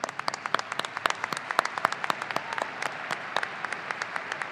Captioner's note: audience applauding